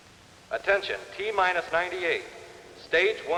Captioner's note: man on PA